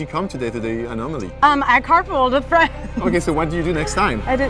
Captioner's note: laughing